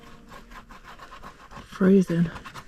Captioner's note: scritch scritch